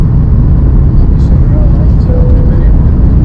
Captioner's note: plane Bell